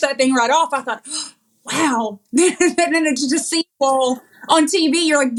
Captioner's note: laugh